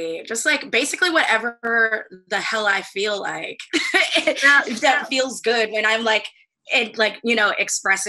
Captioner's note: laughs